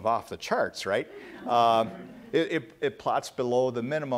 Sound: laughter

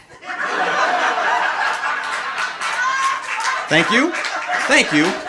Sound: audience laughing

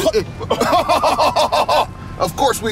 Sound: both laughing

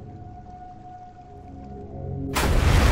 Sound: sound of submarine crashing

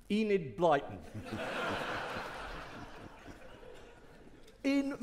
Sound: audience laughing

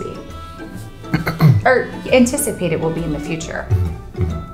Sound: clears Throat

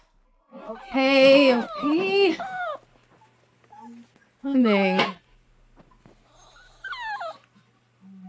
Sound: dog whines

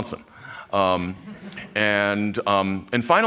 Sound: laughter

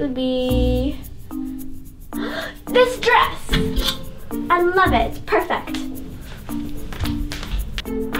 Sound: gasp

